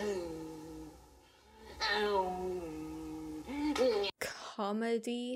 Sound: making lightsaber noises

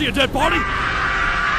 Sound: screaming

